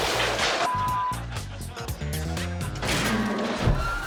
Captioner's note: beep